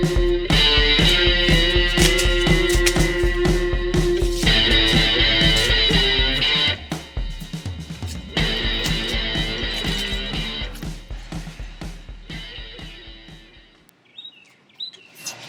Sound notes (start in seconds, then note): 0.8 stick cracking and thudding; 4.6 uptempo rock music continues; 14.3 birds chirping